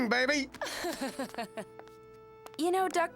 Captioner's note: chuckling